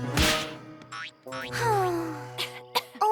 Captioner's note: sighs; coughing